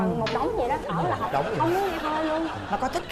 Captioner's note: laughing